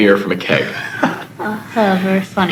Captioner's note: Adam laughs